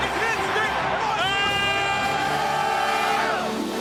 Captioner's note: all shouting